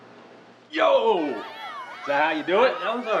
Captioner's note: cheering